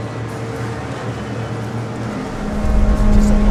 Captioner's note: voices chattering